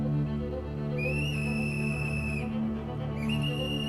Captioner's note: whistle blows